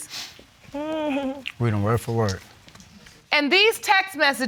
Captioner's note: chuckles